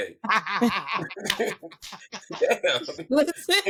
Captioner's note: laughing